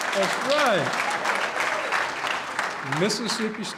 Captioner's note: applause